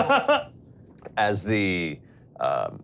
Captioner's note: laughing